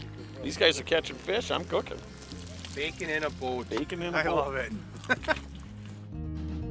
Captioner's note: laughing